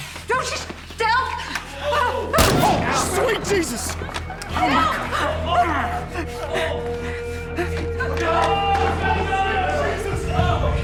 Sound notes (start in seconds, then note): 2.4 pistol booming; 5.2 people exclaiming; 5.9 dramatic music; 5.9 people chattering